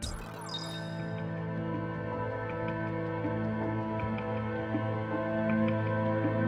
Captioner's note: electronic beeping; celestial music